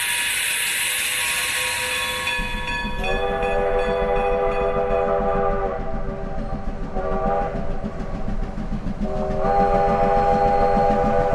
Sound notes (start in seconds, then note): 2.9 train whistle howling; 3.1 train chugging